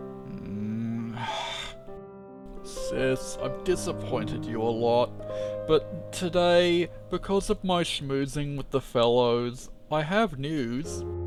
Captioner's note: sigh